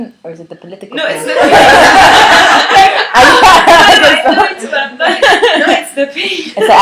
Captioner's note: laughter